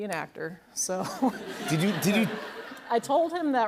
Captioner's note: laughter